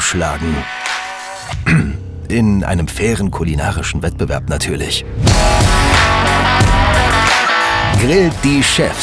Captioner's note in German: räuspern